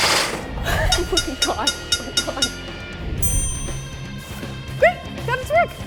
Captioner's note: food processor whirring; multiple dings